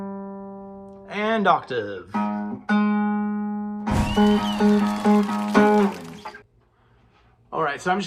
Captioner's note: applause